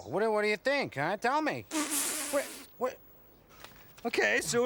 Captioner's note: Bunni sputtering